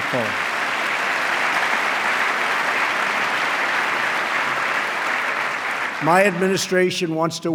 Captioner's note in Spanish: aplauso